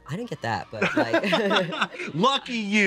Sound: laughs

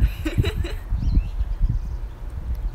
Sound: laughs gleefully

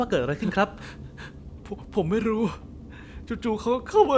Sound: sob

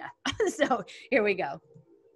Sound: chuckles

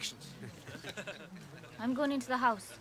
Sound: laughing

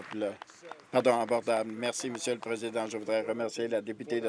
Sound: applause

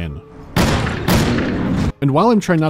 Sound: pow-pow

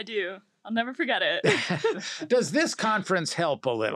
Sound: laugh

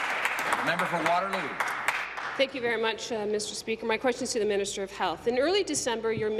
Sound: applause

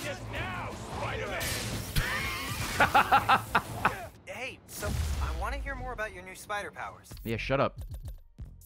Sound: laughs

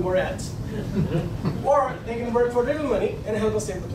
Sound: laughing

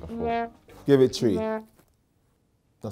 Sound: horn blows

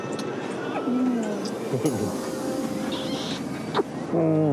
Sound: chuckles

